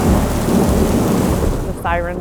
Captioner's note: tornado whirring